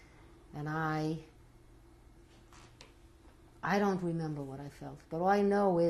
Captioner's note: pauses for 3 seconds